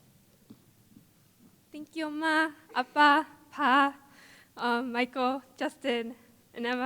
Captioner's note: foreign Language